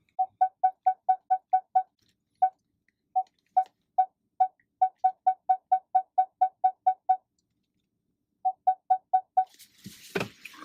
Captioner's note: beeps from backup sensor